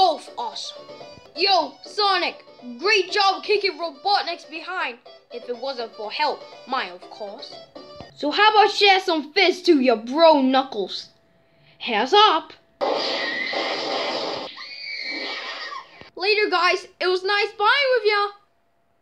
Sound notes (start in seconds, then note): 12.8 bang; 14.4 scream